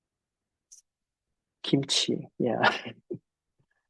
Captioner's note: chuckles